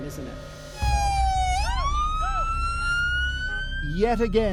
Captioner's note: sirens